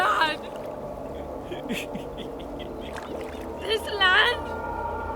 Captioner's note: laughing